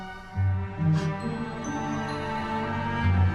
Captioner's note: gasps